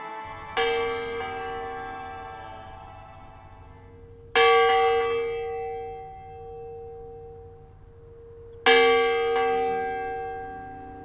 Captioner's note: church bell ringing